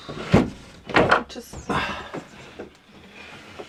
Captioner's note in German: auf Schweizerdeutsch